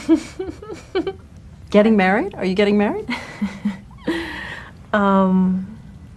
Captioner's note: laughs